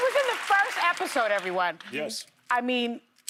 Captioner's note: applause